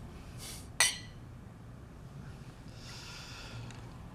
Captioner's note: glasses clink